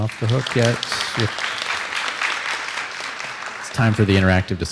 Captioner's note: applause